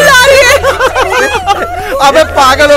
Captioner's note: Everyone laughing